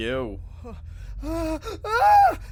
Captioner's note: terrified scream